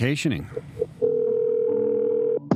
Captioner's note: ringing phone